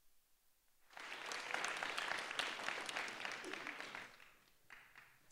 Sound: applause

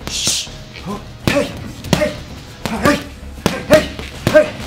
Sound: exhaling rapidly; grunting

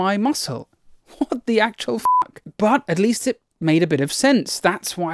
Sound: beep

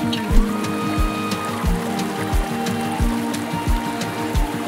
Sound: water flowing

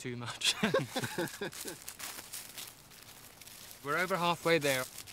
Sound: chuckling

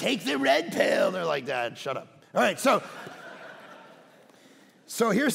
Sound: congregation laughing

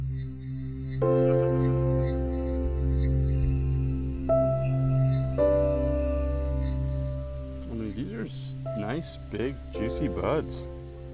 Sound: laughs

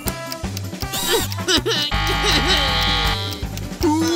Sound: crying

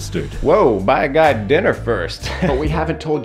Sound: chuckles awkwardly

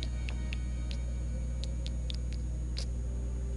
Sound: clicks tongue

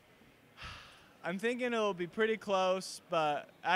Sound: sighs

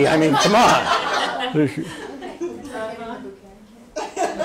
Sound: audience laughs

